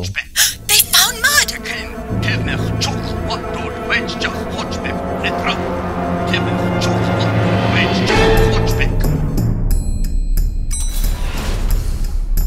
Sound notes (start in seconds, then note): 0.4 gasp; 2.8 Klingon voice shouting on communicator; 9.3 action music